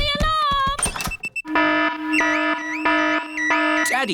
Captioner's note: alarm blaring